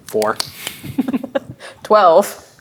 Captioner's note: chuckling